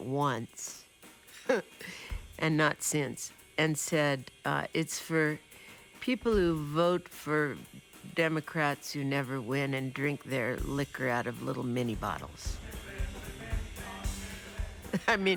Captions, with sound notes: (laughs) and not since, and said it's for people who vote for Democrats who never win and drink their liquor out of little mini-bottles. (upbeat percussion) I mean it's sort of for the underdogs,